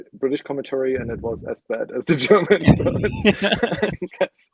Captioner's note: laughing